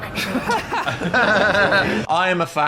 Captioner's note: laugh